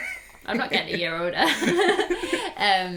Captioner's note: laughter